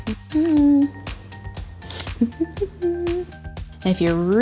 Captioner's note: humming